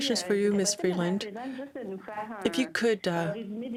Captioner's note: speaking French